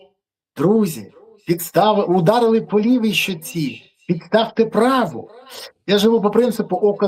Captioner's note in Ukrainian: сопіння